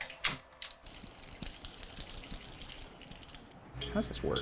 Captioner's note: rods rattling